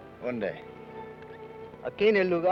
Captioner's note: Ben speaks foreign language